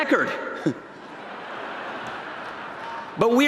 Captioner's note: laughter